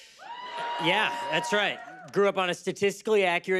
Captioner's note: cheers and applause